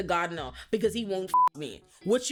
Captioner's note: beep